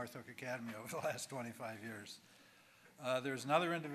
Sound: chuckling

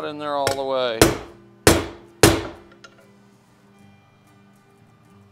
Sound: hammer pounding

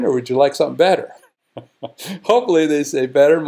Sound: laugh

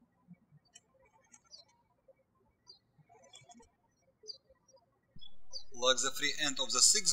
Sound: birds chirping

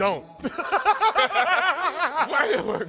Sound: laughter

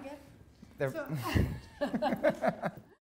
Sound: laughing

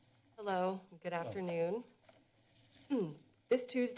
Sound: clears throat

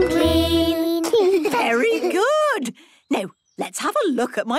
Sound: children giggling

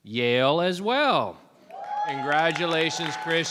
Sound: audience applauding; audience cheering

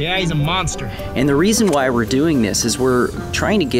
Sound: voiceover

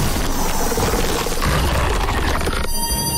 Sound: grunting

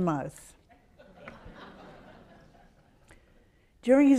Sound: audience laughs

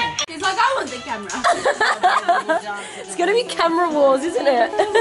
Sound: laughter

